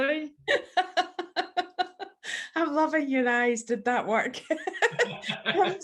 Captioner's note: laughs